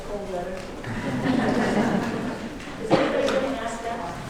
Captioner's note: audience laughing